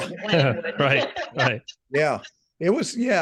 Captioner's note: laughing